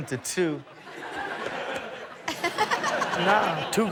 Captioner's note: Chanel and audience laughing